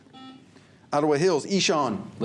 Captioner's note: buzzer